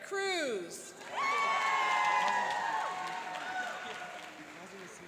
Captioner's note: cheering and applauding